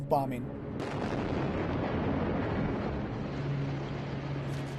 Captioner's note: explosions